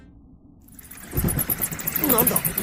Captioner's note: swarms of bats